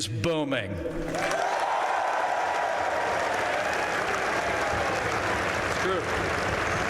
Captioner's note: applause